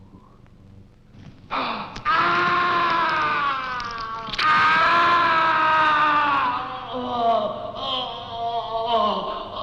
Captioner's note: screams